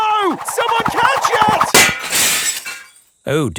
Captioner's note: shatters